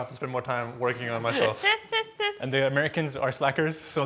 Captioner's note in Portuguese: risos